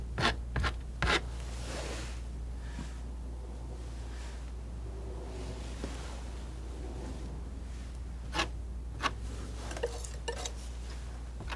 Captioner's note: scratching